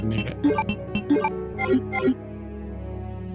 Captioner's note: beeping